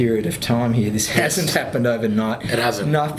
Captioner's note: laughing